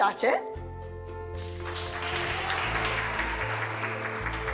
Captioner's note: clapping